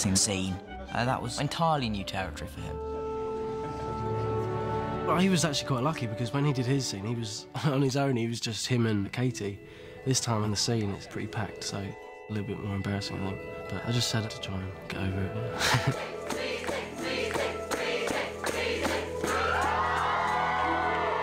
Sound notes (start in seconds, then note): 17.8 cheering